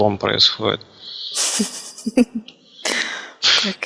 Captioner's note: giggles